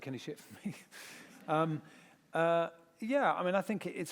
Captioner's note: laughter